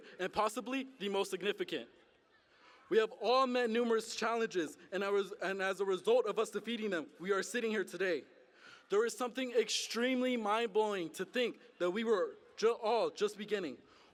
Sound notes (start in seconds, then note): none